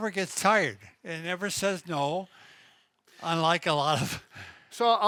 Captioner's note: laughs